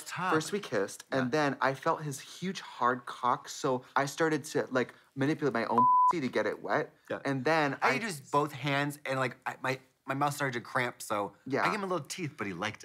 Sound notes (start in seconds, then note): 5.7 beep